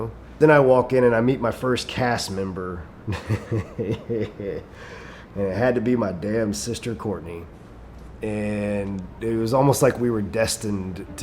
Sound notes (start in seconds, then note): 3.0 chuckles